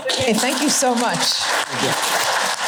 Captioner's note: applause